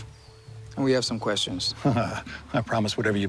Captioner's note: chuckle